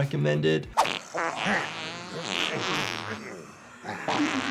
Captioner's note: group farts